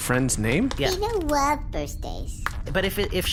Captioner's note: Beano skitters up